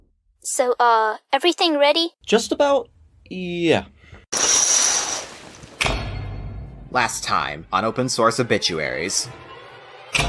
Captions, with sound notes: So, uh, everything ready? Just about... yeah. *curtains slide open* *suspenseful music cue* Last time on Open Source Obituaries...